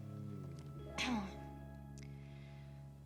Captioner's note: clears throat